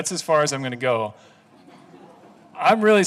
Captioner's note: laughing